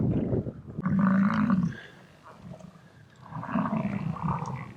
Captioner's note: buffalo grunting